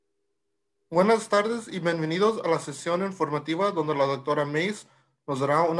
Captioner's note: spanish speaking information